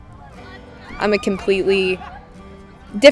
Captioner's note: team cheering